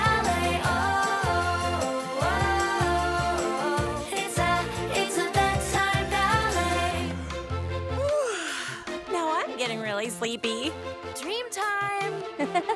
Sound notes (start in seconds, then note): 8.0 yawning; 12.3 laughter